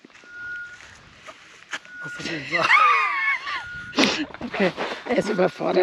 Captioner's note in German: gelächter